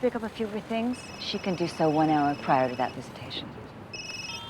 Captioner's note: cell phone rings